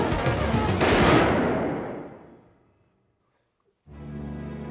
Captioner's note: gun firing